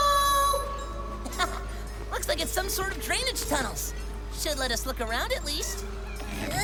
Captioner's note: comes back out, chuckles